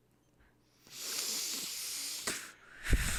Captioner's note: takes a deep breath